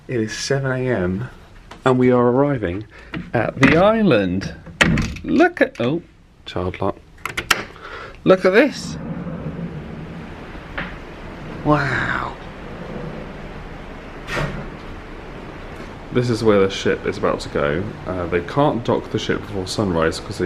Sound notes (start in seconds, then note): 7.2 lock clicks; 7.2 handle clunks; 8.6 waves susurrating